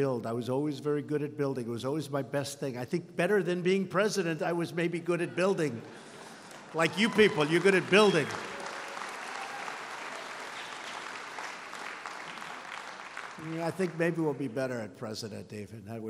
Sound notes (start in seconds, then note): 8.3 applause